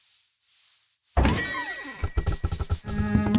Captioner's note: door opens